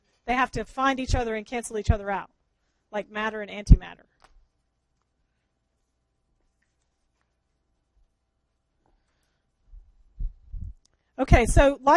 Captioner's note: long pause